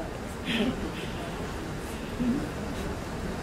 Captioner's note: laughter